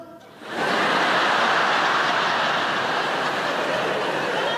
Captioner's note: audience laughs